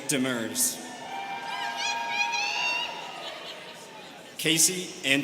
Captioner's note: students cheering